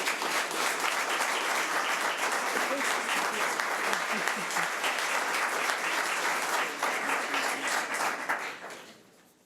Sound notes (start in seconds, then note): 1.5 audience applause